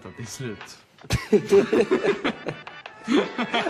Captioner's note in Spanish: risas